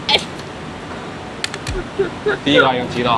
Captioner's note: laughs